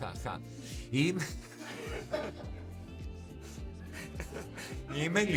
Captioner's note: laughing